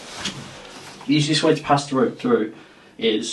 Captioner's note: clothing rustling